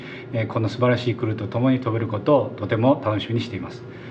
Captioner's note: speaking japanese language